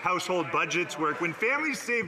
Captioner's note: some Applause